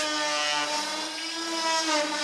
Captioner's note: whirh